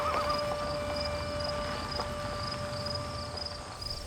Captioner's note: bird and insect sounds